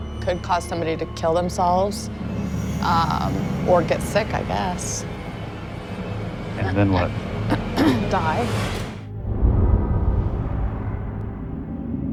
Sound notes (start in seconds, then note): 7.5 clears throat; 9.2 ominous music